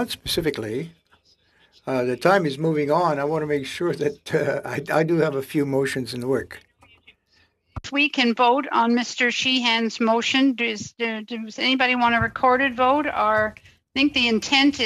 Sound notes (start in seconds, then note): 4.7 speaking French